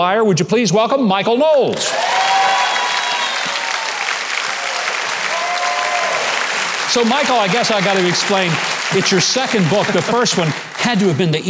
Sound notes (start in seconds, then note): 1.4 audience cheering; 1.5 audience applauding